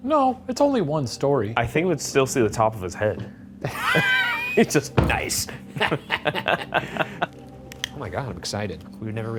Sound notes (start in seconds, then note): 3.6 Ryan laughing; 5.0 laughing